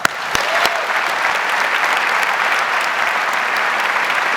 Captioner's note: audience applauds